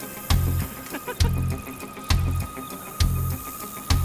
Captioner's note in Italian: Risata